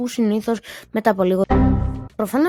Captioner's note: Blue Screen of Death Sound